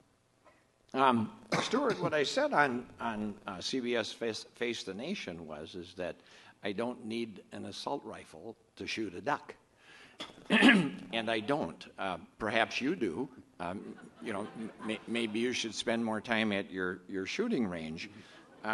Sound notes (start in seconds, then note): 13.8 audience murmurs